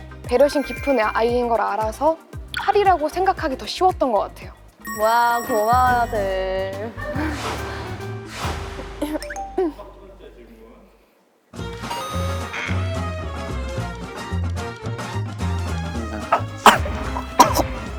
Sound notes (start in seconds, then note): 12.4 gulp; 16.1 chokes